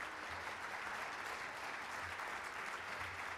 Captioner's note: applauding